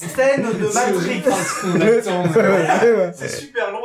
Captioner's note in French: Rire